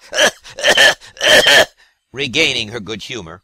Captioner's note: cough-cough-cough